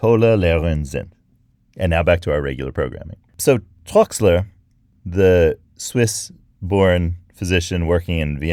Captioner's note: speaking English